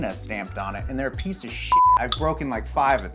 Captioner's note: beep